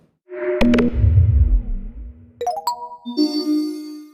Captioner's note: sci-fi sound effects